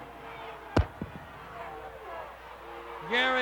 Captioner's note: crowd booing